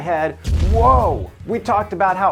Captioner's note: fireball roars